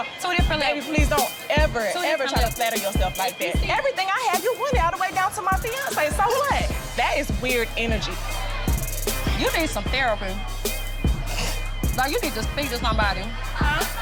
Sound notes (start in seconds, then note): 8.0 tense hip-hop music; 11.3 snorts; 11.8 people laughing